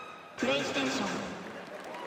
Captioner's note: cheers and applause